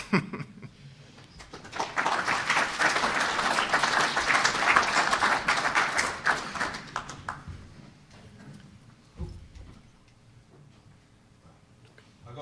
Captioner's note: applause